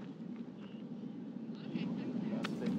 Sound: none

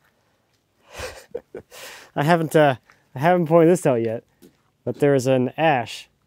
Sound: chuckles

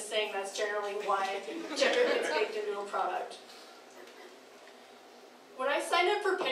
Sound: crowd laughing

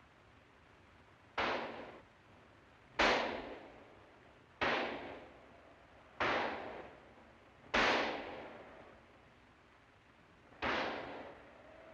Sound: gunshots

